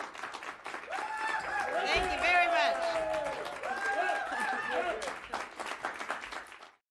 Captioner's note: audience cheering